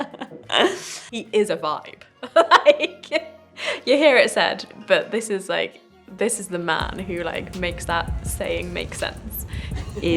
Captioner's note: laughs